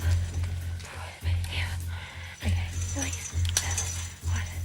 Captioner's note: whispers